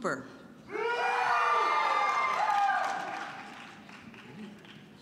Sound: loud cheering

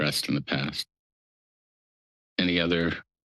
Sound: pause

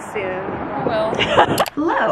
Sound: laughs

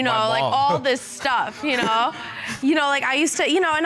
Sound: chuckles

